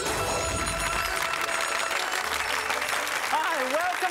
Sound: audience clapping

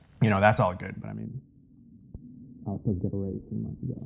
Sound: mans voice fades away

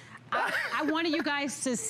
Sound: laughter

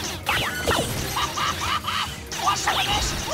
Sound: laughing

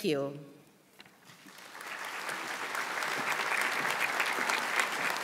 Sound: audience applauds

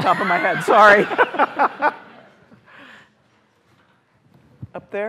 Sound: laughter

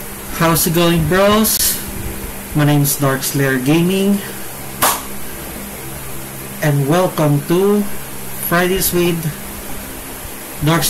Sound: claps

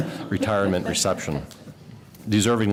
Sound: laughter

